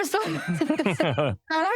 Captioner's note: laughter